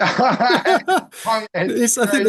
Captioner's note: laughing